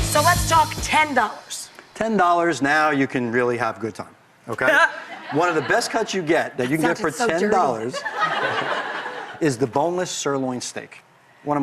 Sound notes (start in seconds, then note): 4.9 laughs; 7.6 audience laughs